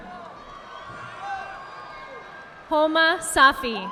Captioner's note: audience applauding